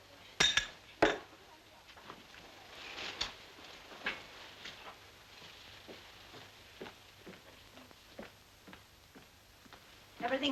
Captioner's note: glasses clink